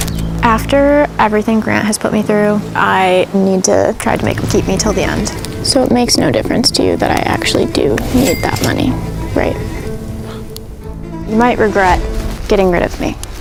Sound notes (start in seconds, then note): 9.0 sighs